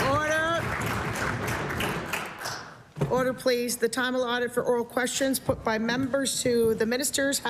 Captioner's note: applause